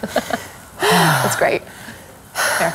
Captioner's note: laughs